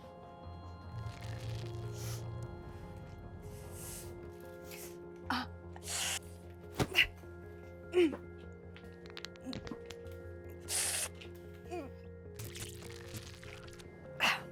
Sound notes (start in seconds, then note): 1.1 squishing; 3.4 inhaling; 5.2 grunting; 12.4 squishing